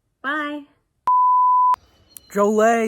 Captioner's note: production tone beeps